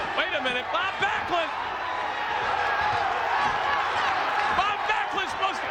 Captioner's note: audience cheers